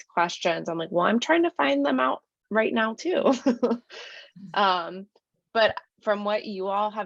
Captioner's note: laughter